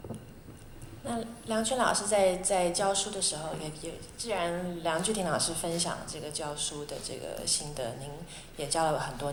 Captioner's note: Mandarin